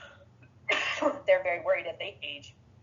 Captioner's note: coughs